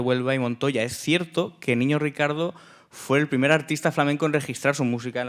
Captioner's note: speaking in Spanish